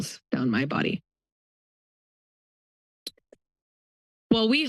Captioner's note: pause